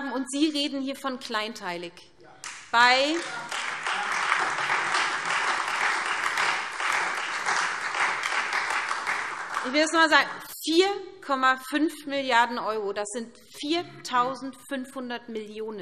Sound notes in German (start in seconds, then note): 2.4 Beifall SPD und Freie Demokraten